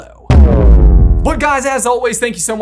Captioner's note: transition booms